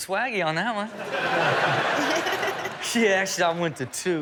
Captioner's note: Chanel and audience laughing